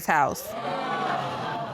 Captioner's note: audience gasps